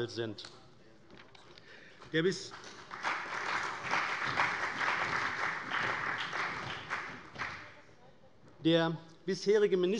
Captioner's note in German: Beifall bei der CDU und dem BÜNDNIS 90/DIE GRÜNEN